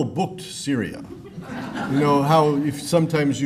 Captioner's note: laughter